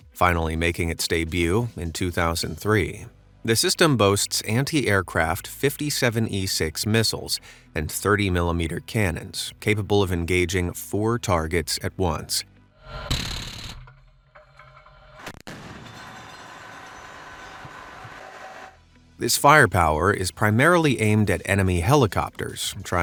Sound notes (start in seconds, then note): 12.9 gun blasting; 15.6 missiles whooshing